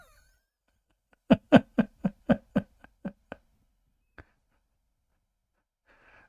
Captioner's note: Ketawa